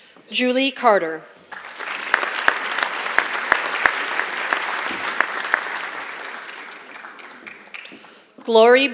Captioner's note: applause